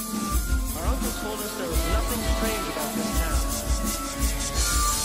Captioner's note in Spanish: Susurro al puro estilo gravity falls